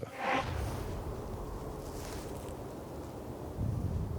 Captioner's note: light wind, footsteps